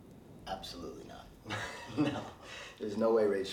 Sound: laughs

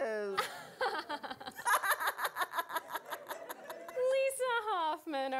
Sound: Gwen, Monalisa laughing

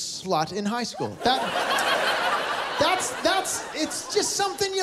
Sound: laughter

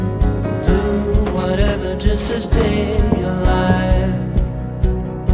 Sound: receding footsteps

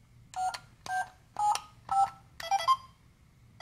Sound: beeping

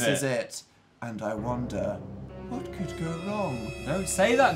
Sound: ominous music; quietly

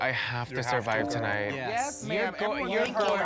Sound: applause

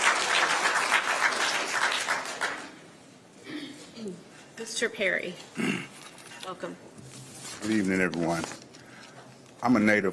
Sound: applause

